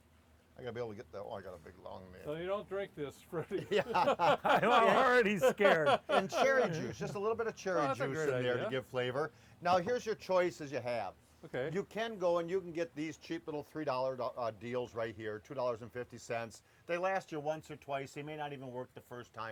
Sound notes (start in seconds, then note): 3.4 laughs